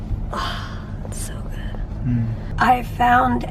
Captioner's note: quietly